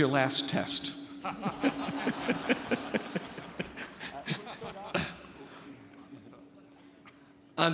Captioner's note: Board of Regents laughs; laughs